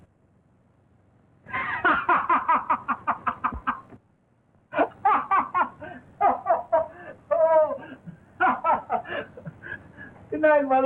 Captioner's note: laughs